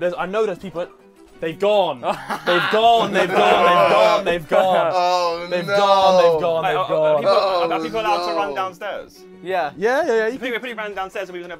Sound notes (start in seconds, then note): 4.1 laughing